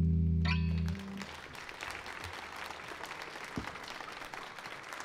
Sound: audience applauds

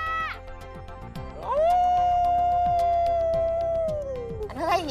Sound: screaming; screaming

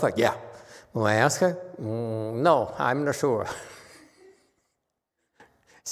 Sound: laughs

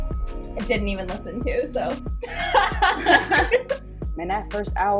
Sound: laughs

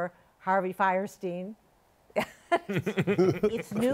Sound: laughter

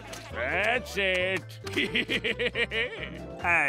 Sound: laughing

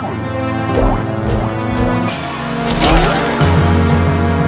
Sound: bouncing noises

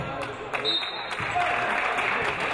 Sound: referee blows whistle; audience applauding

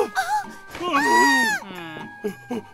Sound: nurse screams

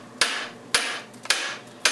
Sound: hammering

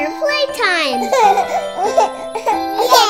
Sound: children laughing

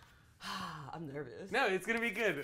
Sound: sighs

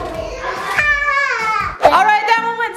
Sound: cheers

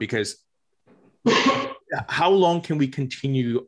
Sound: Tom coughs

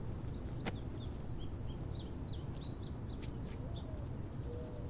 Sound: birds tweeting

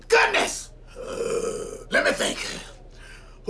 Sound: inhales deeply

